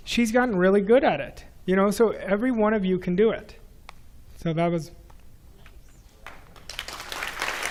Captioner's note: clap